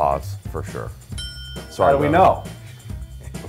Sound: bell dinging

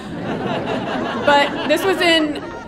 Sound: audience laughing

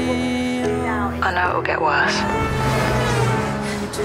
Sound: vehicle horn

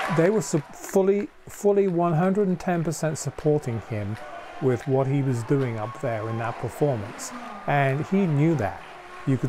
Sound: cheers and applause

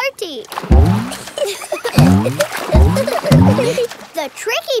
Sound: giggling

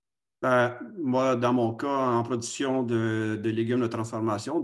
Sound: speaking foreign language

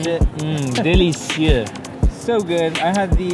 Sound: French accent

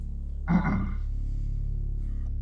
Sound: clears throat

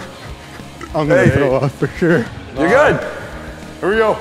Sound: burps

